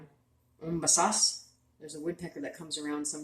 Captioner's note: speaking Abenaki Language